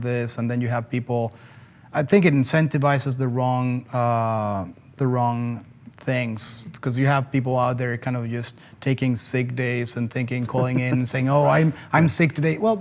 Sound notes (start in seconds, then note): 10.4 chuckles